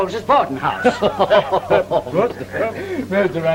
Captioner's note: laughter